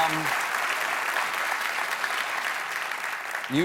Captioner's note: applause